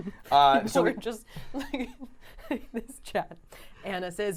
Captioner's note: laughing